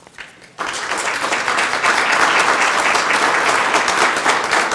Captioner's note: group applauding